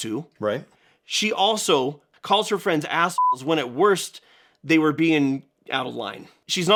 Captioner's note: beeps